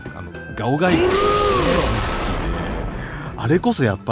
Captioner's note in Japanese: 叫び声